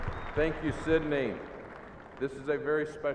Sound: cheers and applause

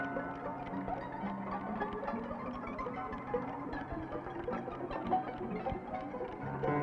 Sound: ticking

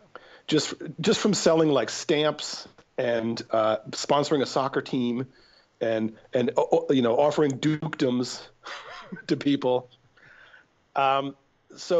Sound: chuckle

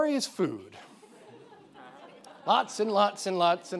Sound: audience laughing

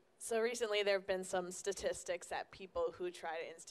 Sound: voiceover

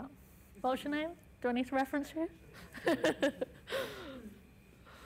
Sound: laughs

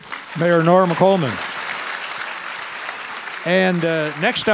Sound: audience applause

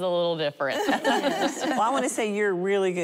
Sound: laughing

